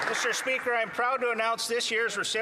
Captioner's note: applause